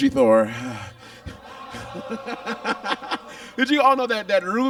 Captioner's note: Monet laughs; audience groans